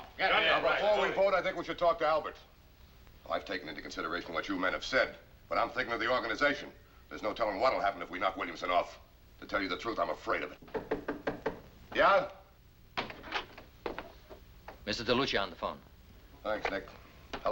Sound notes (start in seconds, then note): 10.6 knocking